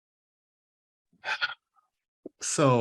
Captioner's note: sighs